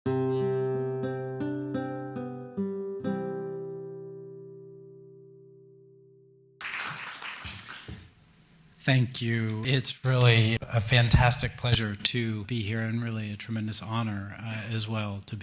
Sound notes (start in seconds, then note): 0.2 gentle music; 6.6 audience applauding